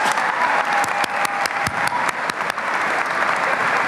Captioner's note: applause and cheering